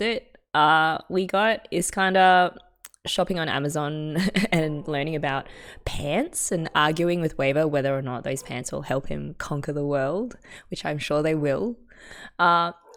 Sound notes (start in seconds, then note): 4.2 laughs